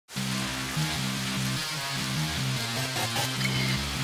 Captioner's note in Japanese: 雨の音